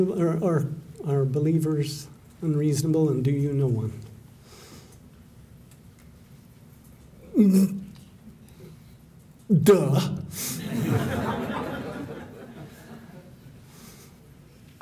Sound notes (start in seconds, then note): 10.5 laughter